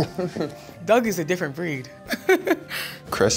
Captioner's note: chuckles